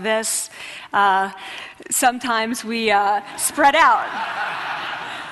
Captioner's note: laughter